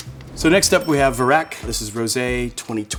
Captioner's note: bell dinging